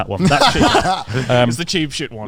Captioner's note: laughs